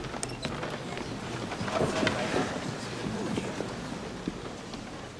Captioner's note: audience chatters